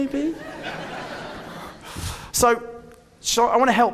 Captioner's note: audience laughing